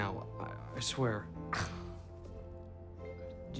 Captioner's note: scoffs